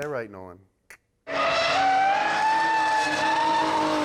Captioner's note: car drifts